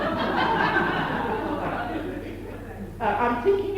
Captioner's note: laughter